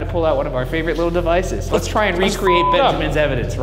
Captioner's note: beep